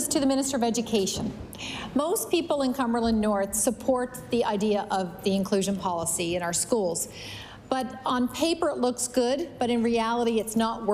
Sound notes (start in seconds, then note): none